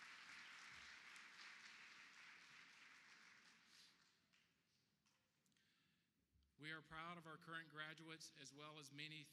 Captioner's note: applause